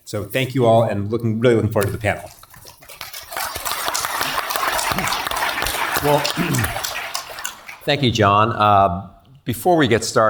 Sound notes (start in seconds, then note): 3.0 applause; 6.3 cough